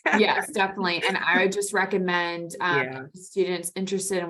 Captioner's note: laughing